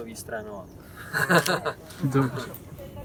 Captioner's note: laugh